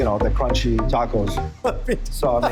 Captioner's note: laughs